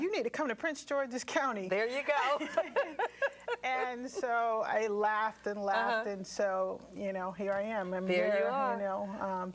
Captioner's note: laughter